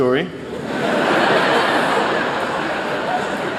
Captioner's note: laughter